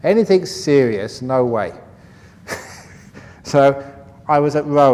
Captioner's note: laughs